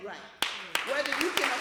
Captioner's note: applause